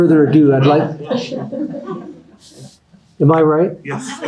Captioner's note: everyone laughing